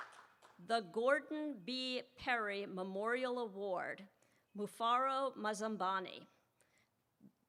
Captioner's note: applause